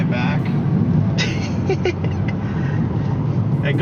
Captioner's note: laughter